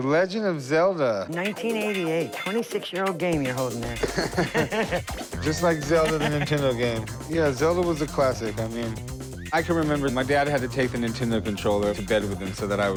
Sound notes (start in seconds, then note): 3.9 laughter